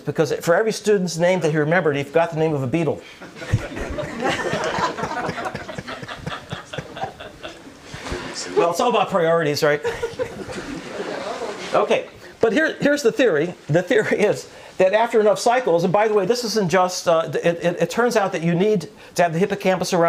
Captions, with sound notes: because for every student's name that he remembered, he forgot the name of a beetle. (audience laughter) Well, it's all about priorities, right? Okay. But here, here's the theory. The theory is that after enough cycles, and by the way, this isn't just it, it turns out that you need to